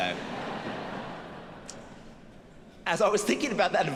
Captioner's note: audience laughing